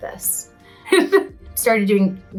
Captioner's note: Lea chuckles